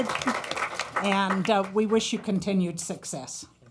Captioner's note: applause